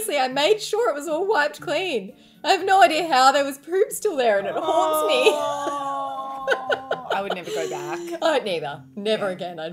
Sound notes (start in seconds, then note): 4.4 laughing; 4.4 groaning